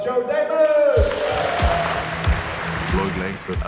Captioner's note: audience applauds; upbeat music